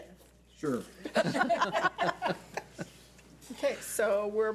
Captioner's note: laughing